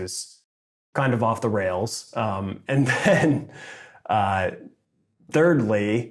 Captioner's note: laughs